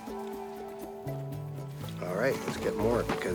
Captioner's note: none